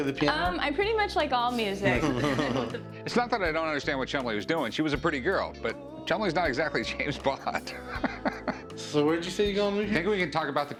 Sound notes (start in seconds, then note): 1.8 laughter; 7.1 laughs